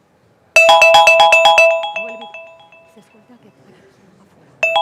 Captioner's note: phone ringing